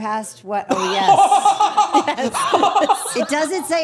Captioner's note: laughs